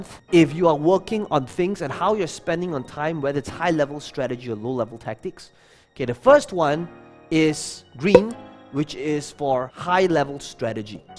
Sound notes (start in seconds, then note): 8.1 pop sound